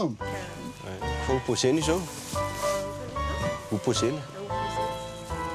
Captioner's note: man speaking softly